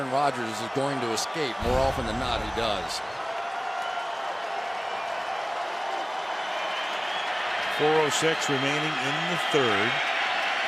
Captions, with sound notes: that Aaron Rodgers is going to escape. More often than not he does. [cheering] 4:06 remaining in the third.